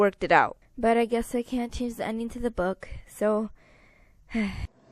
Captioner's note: sigh